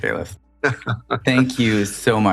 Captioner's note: laughter